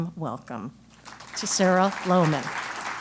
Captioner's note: applause